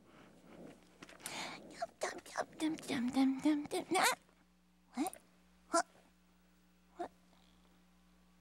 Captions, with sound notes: ( Leona humming tune ) Huh? What? What...